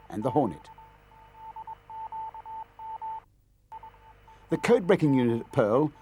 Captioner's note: machine beeping